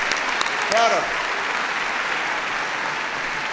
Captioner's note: applause